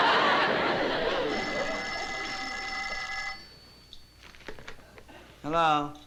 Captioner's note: phone ringing